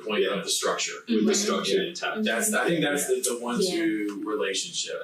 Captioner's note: group chattering